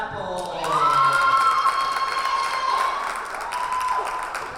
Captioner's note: cheering and applause